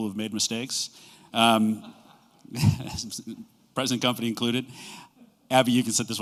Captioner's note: laughter